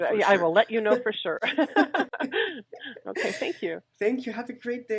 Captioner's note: laughs